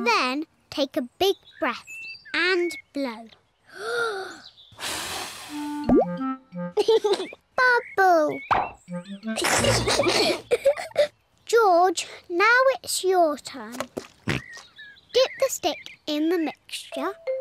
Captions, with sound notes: Then, take a big breath and blow. (TAKES BIG BREATH AND BLOWS) (LAUGHS) Bubble! (BOTH GIGGLE) -George, now it's your turn. -(OINKS) Get the stick in the mixture.